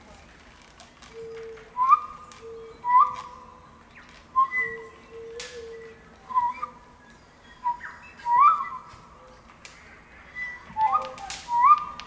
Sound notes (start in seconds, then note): 6.1 bird calls